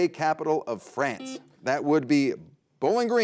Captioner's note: buzzer buzzes